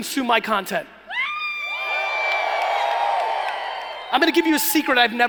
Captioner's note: cheering